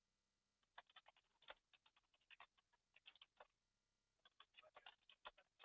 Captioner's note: computer keyboard keys tapping